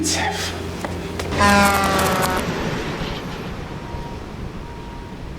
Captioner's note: winces; truck honking, phone breaking